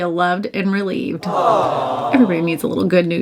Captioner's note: crowd